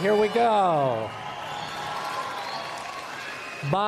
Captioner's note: applause